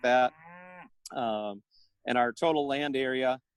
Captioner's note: mooing